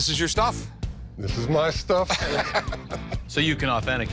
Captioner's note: laughs